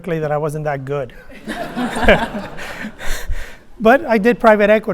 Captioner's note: laughter